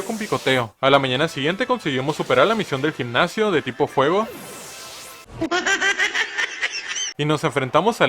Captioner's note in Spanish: juasjuas